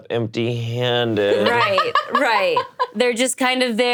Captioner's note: laughs